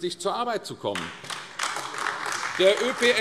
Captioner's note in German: Beifall AfD